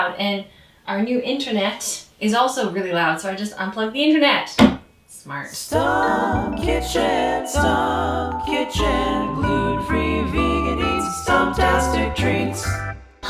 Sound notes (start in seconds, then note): 4.6 hands thuds